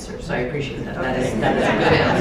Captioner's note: laughter